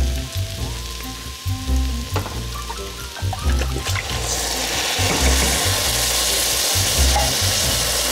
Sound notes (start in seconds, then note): 4.3 sizzling